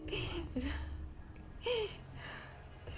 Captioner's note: breathing heavily